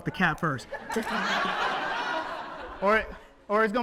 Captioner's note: audience laughs